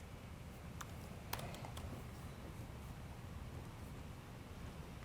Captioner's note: keyboard clicking